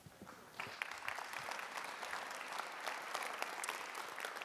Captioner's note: audience applauding